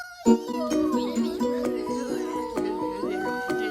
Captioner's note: books all squabbling at once